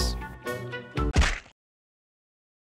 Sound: crunch!

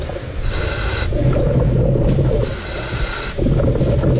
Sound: breathing deeply

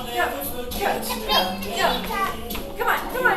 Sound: babbling

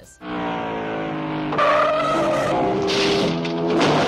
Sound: race car engine roars; tires screech to halt; car bangs; tires squeal

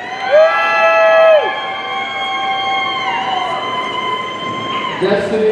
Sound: audience cheering

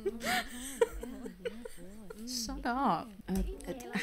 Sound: laughing

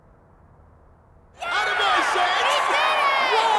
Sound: fans cheering

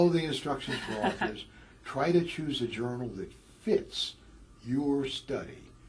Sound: laugh

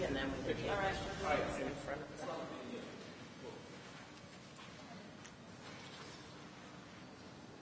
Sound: none

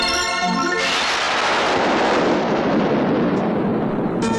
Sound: thunder Rumbling

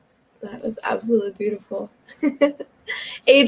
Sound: laughs

